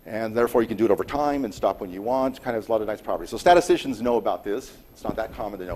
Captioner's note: none